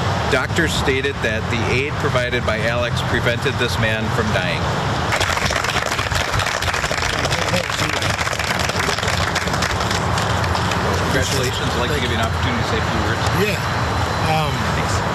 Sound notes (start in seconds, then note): 5.1 applause